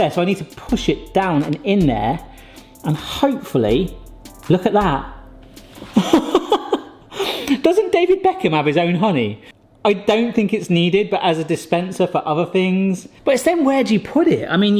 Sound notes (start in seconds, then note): 5.5 laughing